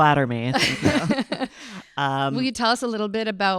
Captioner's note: panel laughing